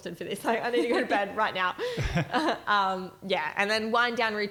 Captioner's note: chuckles